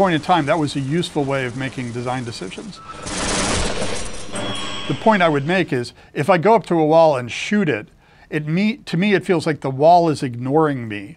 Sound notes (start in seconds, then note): 2.7 metal creaking